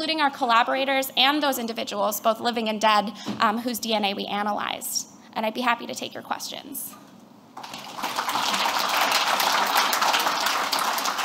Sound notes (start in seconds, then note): 7.6 applause